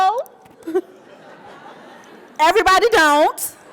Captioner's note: audience laughing